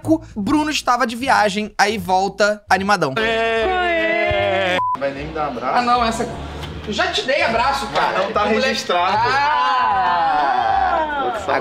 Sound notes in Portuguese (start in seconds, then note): 4.7 som de bipe